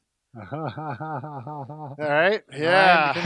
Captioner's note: laughs